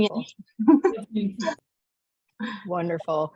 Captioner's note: laughter